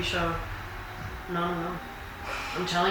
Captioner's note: laughing